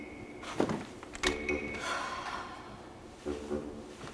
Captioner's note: sighs